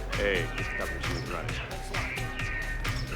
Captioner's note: indistinct conversation